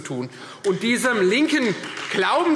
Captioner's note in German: Beifall Freie Demokraten